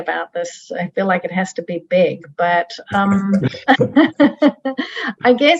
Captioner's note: laughs